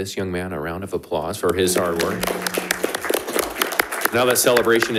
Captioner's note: panelists applauding